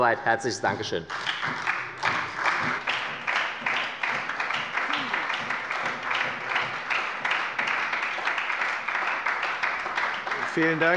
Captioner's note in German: Beifall bei der SPD